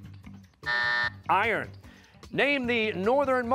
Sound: buzzer

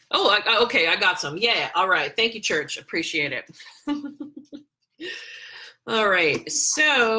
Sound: laughs

